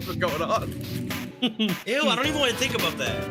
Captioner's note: laughs